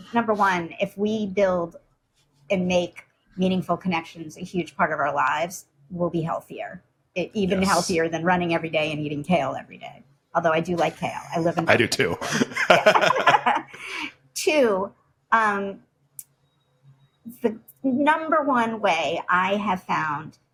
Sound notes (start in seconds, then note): 11.2 laughs